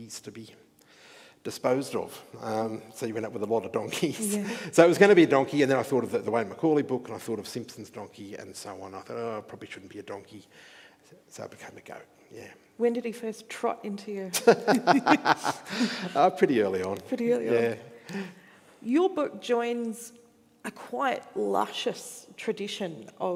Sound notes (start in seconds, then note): 14.3 laughing